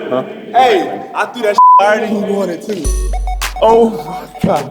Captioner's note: beep